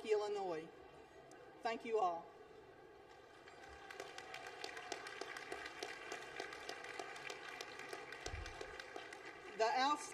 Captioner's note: applause